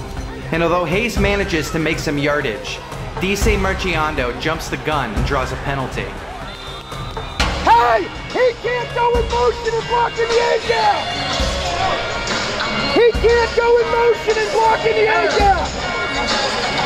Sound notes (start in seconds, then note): 6.2 crowd Yelling and Refs Whistles; 11.5 arena Noise; 16.6 arena Noise and Crowd Reaction